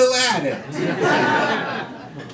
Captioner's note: crowd laughing